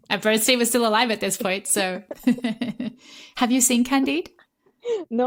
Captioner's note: laughter